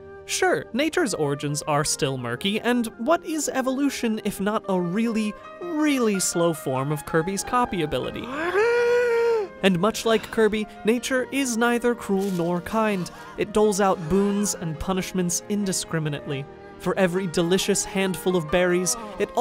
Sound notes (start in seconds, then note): 8.2 inhaling